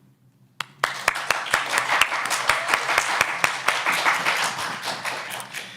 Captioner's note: applause